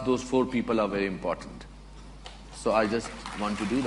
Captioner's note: applause